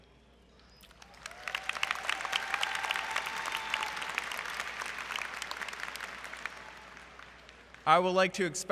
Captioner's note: applause